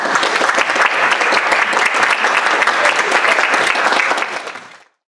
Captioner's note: applause